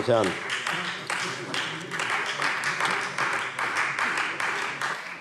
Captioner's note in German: Beifall Freie Demokraten